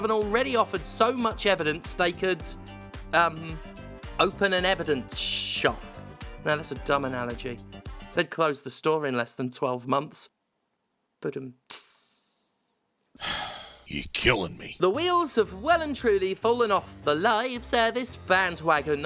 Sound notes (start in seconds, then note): 13.1 sigh